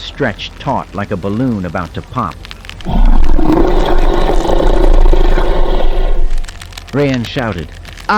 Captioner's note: Hutt Croaking